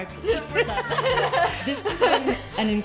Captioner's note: laughing